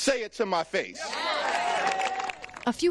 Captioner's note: cheering; applause